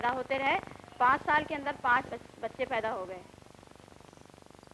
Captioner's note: non-English speech